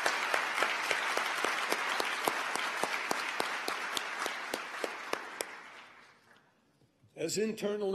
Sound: applause

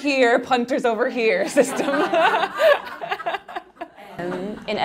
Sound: laughing

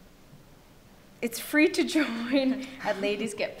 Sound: laughs

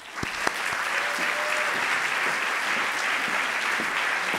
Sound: audience applauding

